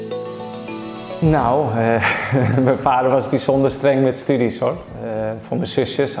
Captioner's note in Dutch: Jordi lacht